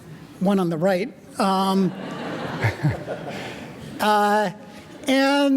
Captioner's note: audience laughing